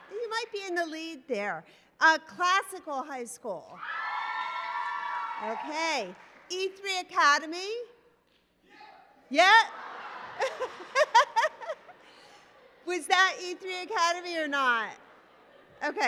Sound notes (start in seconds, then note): 4.7 applause; 9.7 laughter; 9.8 applause